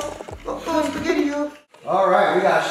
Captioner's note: kids laugh